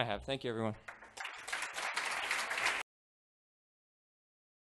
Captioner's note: applause